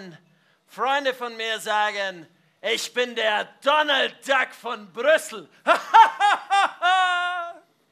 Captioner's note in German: lacht